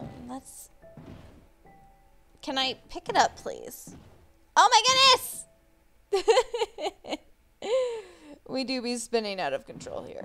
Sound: yells; laughs

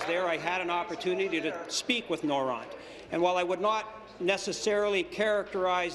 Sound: applause

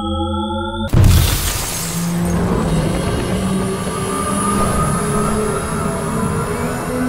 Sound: glass shattering; humming frequency

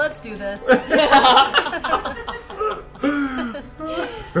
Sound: all laugh

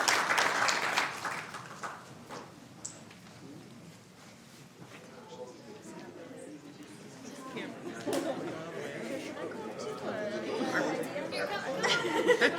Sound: applause

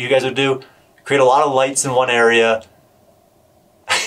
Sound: laughs

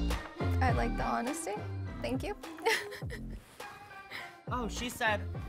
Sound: laughs

